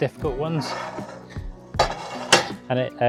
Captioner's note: bar scraping and clicking